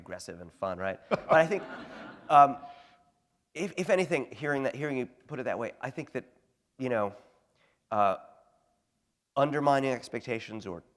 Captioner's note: laughter